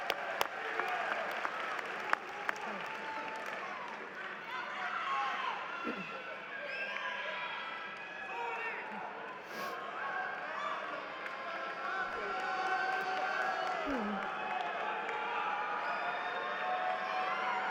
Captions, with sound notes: Ladies and gentlemen, the class of 2019. >> [Applause]